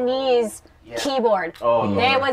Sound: sounds of agreement

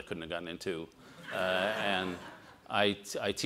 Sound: all laugh

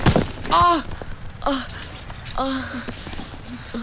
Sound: groans

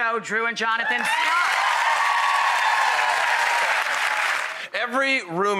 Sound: audience cheering

